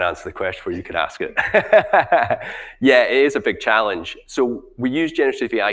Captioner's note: chuckling